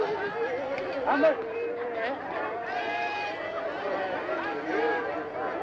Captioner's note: crowd chattering